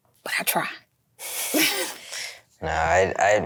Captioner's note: both laugh